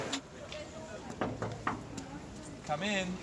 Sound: knocking on steel wall

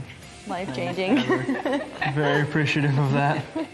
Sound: chuckles

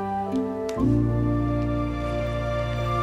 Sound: flashlight Clicks

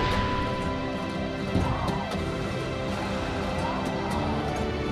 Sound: cowboy music; wind blows

